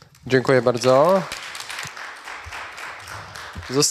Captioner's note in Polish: oklaski